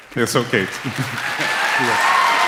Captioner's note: applause